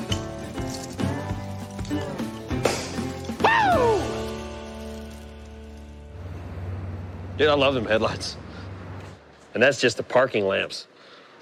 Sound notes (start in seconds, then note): 2.4 cork pops